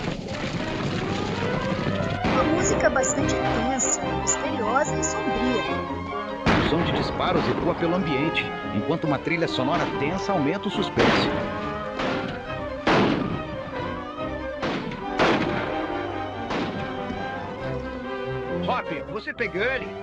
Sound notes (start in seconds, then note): 2.2 tense music; 6.4 gunshots - tense music